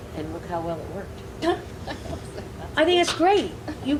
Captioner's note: laughing